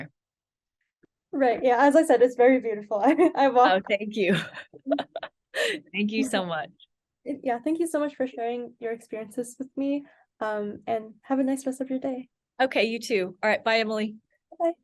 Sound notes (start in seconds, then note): 4.3 laughs